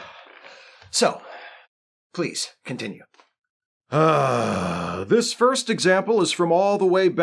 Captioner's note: heavier sigh